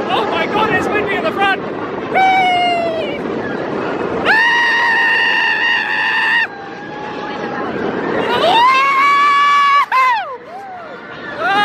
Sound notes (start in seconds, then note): 2.3 screaming; 7.9 screaming